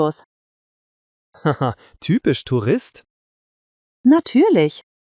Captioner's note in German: lacht